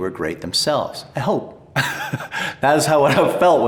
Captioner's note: chuckles